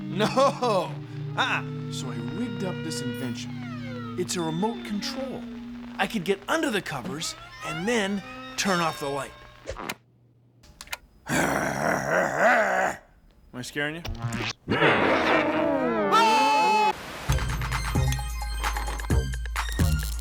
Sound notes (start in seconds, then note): 8.7 bell rings; 11.3 growling